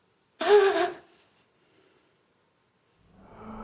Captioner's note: sobs